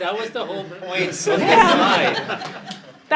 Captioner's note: laughter